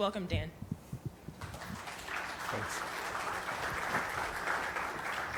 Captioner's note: audience applauding